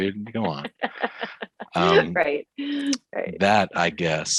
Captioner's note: laughs